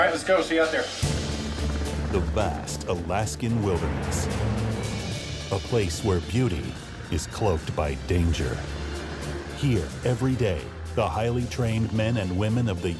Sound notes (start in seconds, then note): 1.6 dramatic music; 1.6 helicopter blades whirring